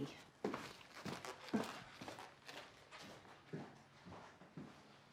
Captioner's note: footsteps crunching